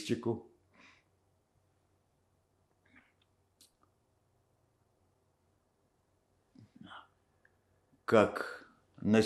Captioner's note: pause 7 seconds